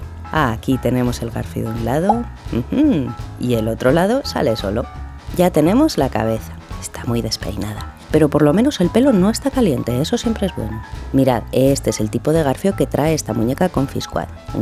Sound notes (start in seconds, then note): 6.6 whispering